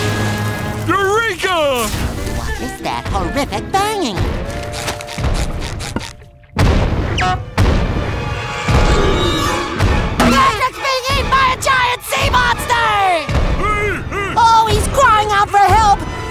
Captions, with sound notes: Eureka! What is that horrific banging? [banging] [growling] Patrick's been eaten by a giant sea monster! Hey! Oh, he's crying out for help!